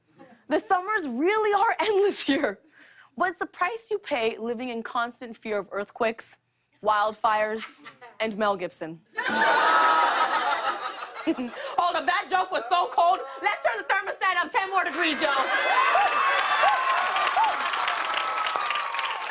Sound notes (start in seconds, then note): 9.0 audience oohs; 15.2 cheers and applause